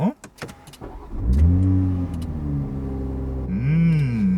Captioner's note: engine starting